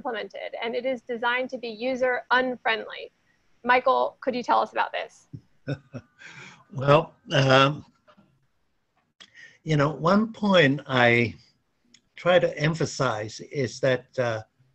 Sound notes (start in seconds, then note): 5.6 chuckles